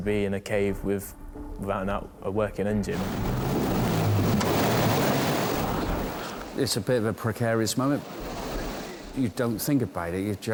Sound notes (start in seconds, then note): 2.9 wind howls; 2.9 waves roar